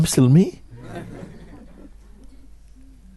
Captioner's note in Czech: smích